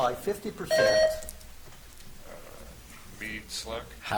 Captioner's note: buzzer chimes